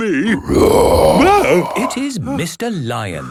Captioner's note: loud roar